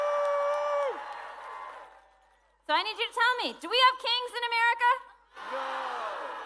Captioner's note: cheering